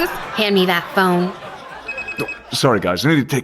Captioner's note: phone ringing